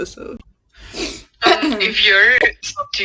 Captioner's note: sniffs and clears throat